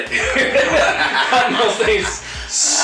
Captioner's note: laughing